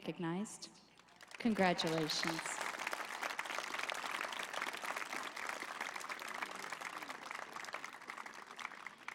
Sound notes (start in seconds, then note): 5.2 applause; 5.2 cheering